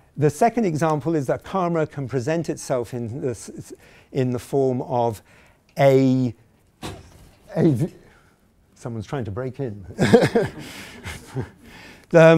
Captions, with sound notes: The second example is that karma can present itself in the form of, a... [someone bangs on the window] someone's trying to break in (chuckling). (audience chuckling)